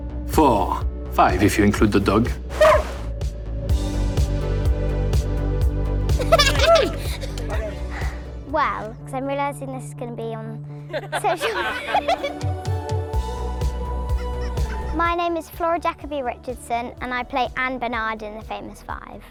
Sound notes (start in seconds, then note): 2.5 barking; 10.9 laughing